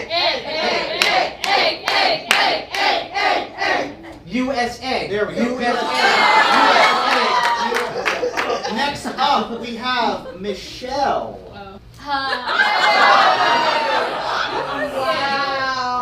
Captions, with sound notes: - Egg, egg, egg, egg, egg, egg, egg, egg, egg, egg. - USEgg. USEgg. USEgg. - There we go. (audience cheers) - Next up, we have Michelle. - Hi. (audience laughs) - Wow.